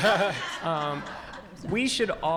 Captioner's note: audience laughing